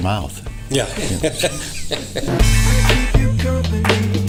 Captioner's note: laughing